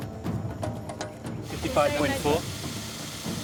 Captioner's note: drill whirs